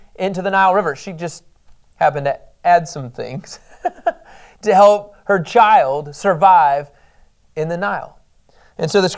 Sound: laughs

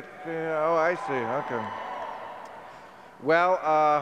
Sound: scattered cheering

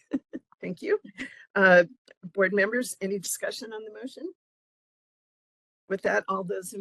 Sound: laughing

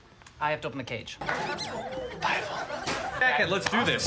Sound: whispered

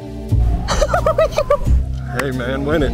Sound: contestant hysterically laughing

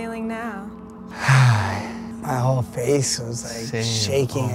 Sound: sighs

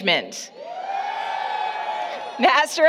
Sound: applause, Cheering

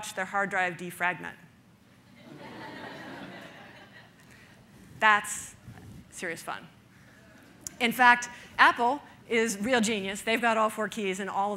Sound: audience laughter

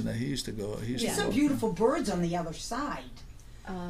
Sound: voiceover

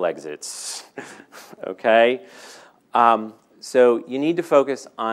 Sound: laughing

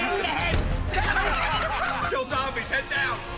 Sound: laughter

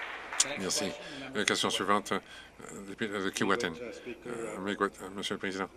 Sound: some Applause

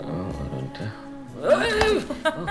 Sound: screams; Maanu laughing

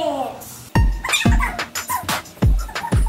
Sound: audio sped up; lively music

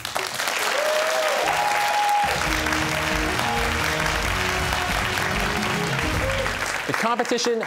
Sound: cheers and applause

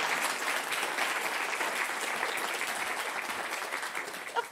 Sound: applause

